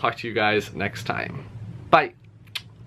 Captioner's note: click noise